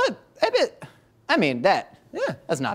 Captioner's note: exclaims